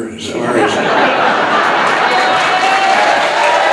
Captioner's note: audience laughing; audience clapping cheering